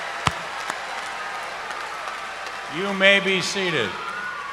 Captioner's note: cheers and applause